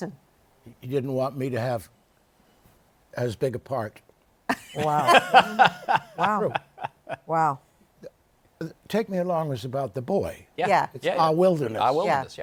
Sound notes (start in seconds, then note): 4.6 laughs